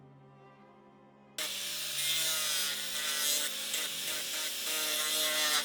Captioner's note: flap sander whirring